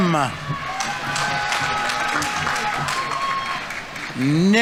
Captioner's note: audience members cheering; audience applauding